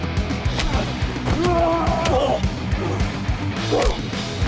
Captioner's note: both moaning